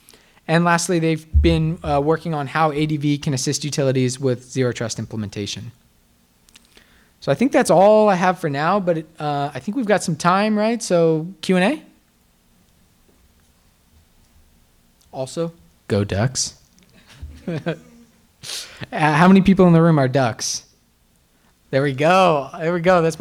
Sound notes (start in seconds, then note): 17.0 laughter